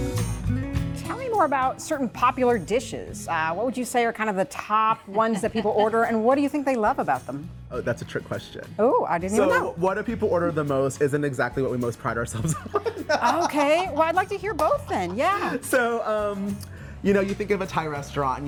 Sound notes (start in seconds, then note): 12.4 laughing